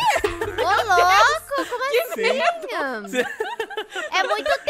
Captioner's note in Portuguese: Risadas